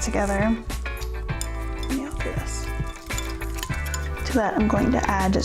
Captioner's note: whisking